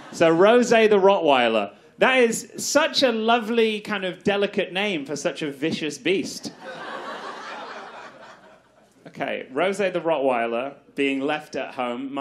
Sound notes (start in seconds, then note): 6.4 audience laughs